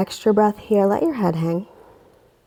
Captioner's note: deep breathing sounds